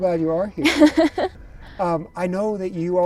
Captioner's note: laughing